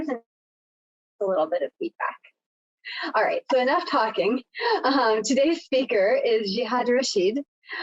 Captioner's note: chuckles